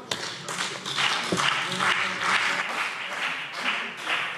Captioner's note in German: Beifall BÜNDNIS 90/DIE GRÜNEN und CDU - Zurufe Freie Demokraten